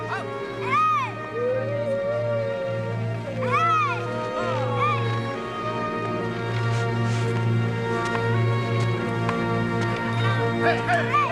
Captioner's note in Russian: плач